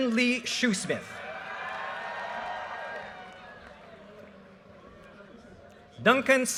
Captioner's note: audience cheers and applause